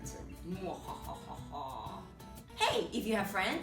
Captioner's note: laughs malevolently